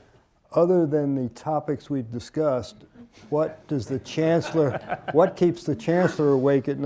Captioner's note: laughter